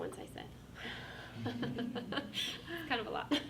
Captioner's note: everyone laughs